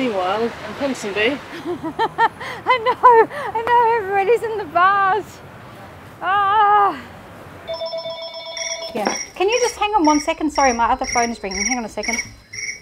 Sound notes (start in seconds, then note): 1.5 laughs; 6.3 groans; 7.6 phones ringing